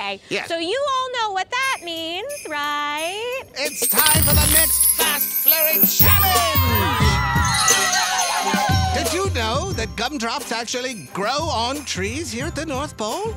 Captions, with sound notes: So you all know what that means, right? It's time for the next Fast Flurry Challenge. [cheering] Did you know that gumdrops actually grow on trees here at the North Pole?